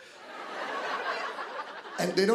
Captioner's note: laughter